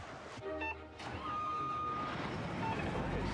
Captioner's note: engine turns over